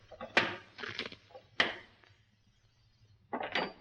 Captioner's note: crunch; objects clatter on shelf